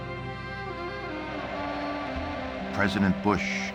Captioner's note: crowd cheering